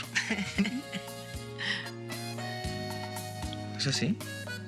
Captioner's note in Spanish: risas